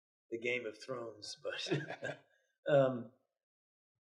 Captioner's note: chuckles